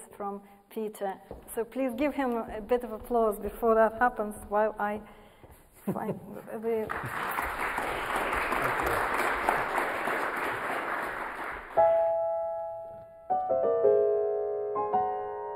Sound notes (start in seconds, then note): 6.8 audience applauds; 11.7 unsettling piano music